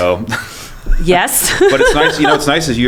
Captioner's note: laughing